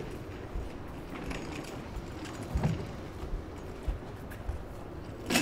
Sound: oxygen tank clattering

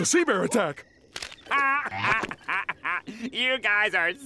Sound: laughing

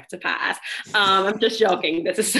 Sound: laughing

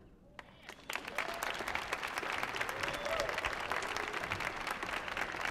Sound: audience applauding

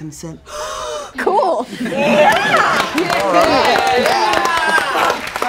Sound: group cheers

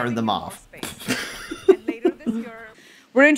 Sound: laughs in widget goodness

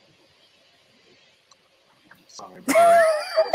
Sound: laughs

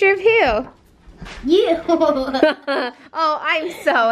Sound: laughs

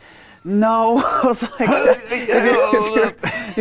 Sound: groans

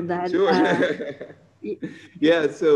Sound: laughing

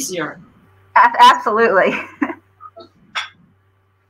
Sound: laughter

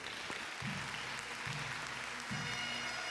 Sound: audience cheers and applauds; jubilant bagpipe music

